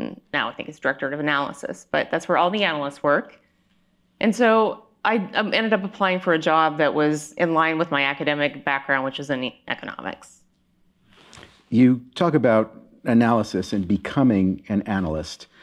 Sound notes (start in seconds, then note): none